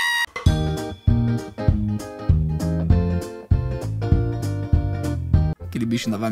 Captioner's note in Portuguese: som divertido